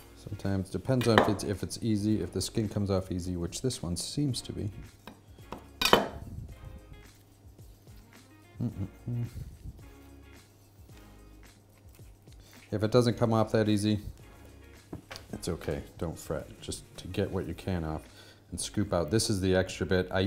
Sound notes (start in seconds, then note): 5.8 knife clatters; 8.4 hums